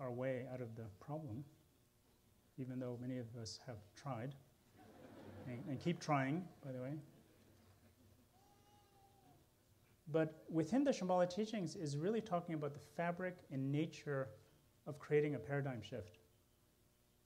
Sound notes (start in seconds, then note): 4.7 laughter